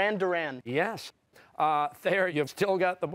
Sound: in English accent

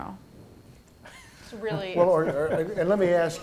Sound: laughing

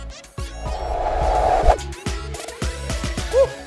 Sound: whooshing sound

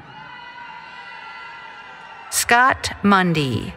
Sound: cheering

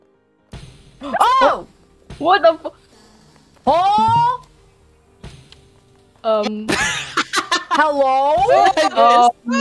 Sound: various ohs and ums

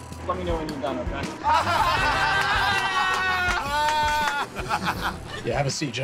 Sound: laughter

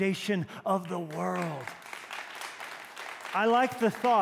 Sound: applause

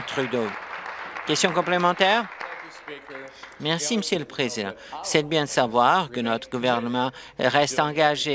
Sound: applause

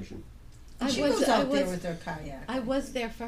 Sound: voiceover

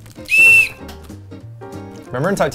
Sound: shrill whistle

